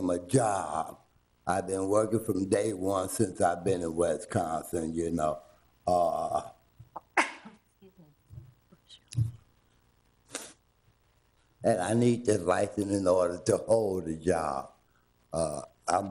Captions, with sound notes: I've been working from day one since I've been in Wisconsin. (board member sneezes) And I need this license in order to hold a job.